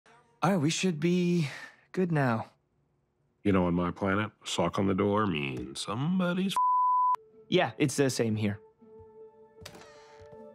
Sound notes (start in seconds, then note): 6.5 beep